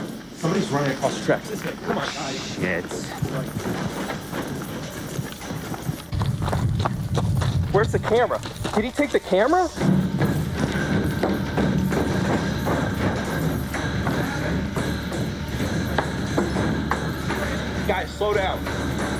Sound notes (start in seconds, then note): 4.1 footsteps; 10.0 running footsteps